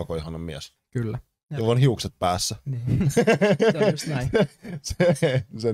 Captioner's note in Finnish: Nauraa